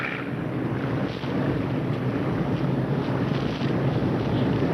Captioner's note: plane engines rumbling